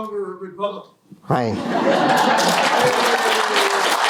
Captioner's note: laughter, applause